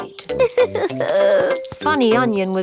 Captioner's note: crying